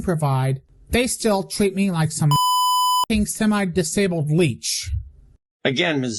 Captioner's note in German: Piep